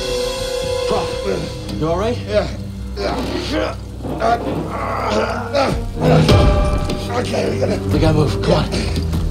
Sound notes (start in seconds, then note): 3.6 straining